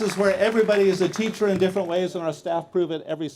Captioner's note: applause